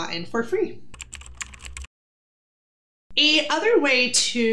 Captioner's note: keyboard clicking